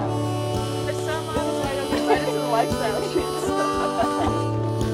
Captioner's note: indistinct chatter